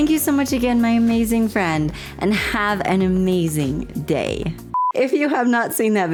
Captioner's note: blooper beep